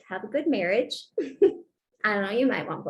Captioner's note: laughter